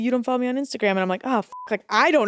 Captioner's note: beep